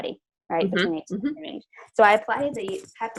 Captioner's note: murmurs